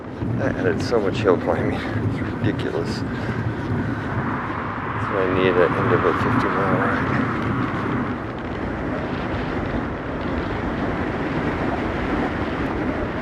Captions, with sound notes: That added so much hill climbing. It’s ridiculous. [Sarcastically] That’s what I need at the end of a 50 mile ride.